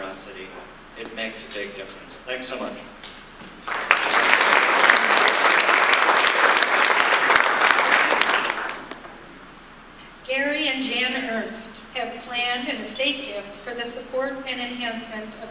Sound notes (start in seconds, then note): 3.6 audience applause